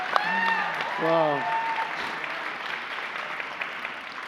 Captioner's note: applause; cheers and applause